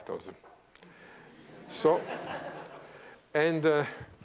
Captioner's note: laughter